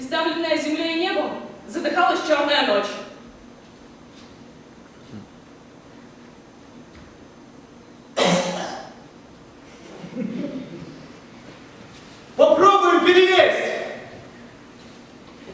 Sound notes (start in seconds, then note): 8.1 cough